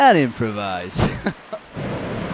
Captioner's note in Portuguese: Kkkkkkk